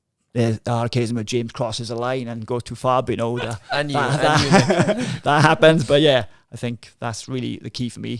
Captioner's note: laughing